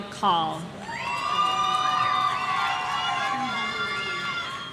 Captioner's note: audience cheering